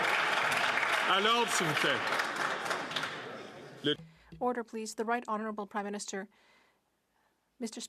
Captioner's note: some Applause